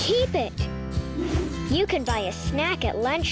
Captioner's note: air whooshing